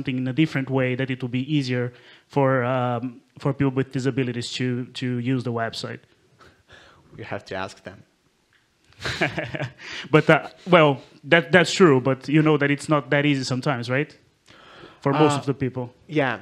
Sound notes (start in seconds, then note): 8.9 chuckles; 9.5 audience member #2 laughs